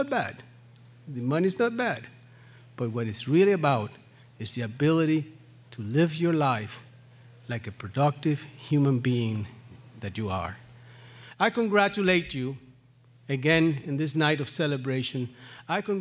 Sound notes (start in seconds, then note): none